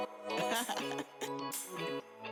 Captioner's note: upbeat music; singer chuckles